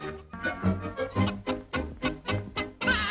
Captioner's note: clucking